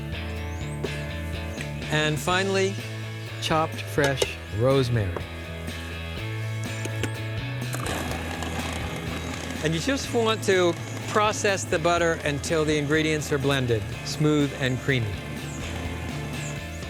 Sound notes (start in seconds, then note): 7.7 whir of processor